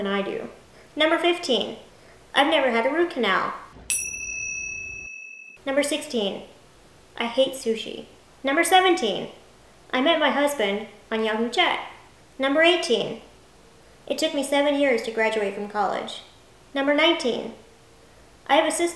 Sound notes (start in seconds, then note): 3.9 bell chiming sound